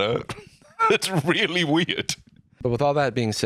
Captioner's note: laughing